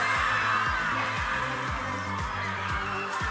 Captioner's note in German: Jubel